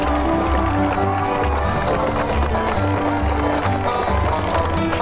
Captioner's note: horse hooves clopping; gentle upbeat music